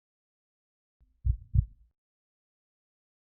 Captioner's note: heartbeat